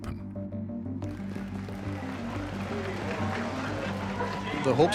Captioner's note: applause